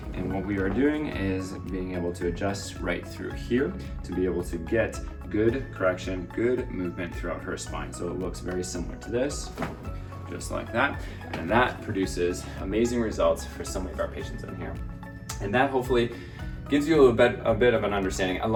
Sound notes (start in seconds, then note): 9.6 table thuds